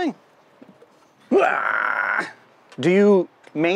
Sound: groans

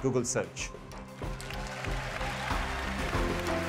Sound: applause

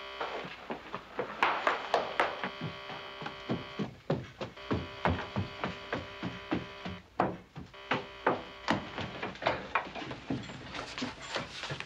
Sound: loud buzzing

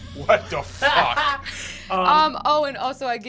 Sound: laughs

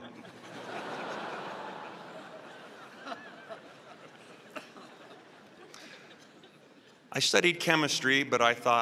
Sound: laughter

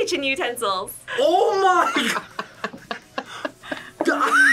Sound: laughs

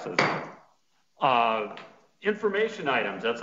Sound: gavel pounding

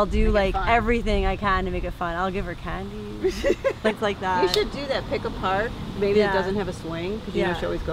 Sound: laughter

